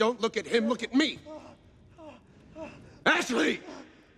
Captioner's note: Blindspot groaning